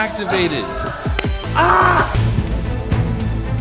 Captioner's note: player screams; upbeat orchestral music